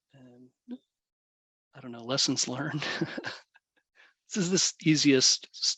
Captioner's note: laughs